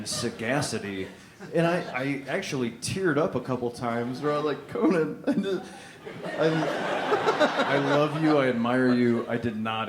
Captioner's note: laughter; laughter